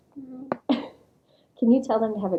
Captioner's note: laughter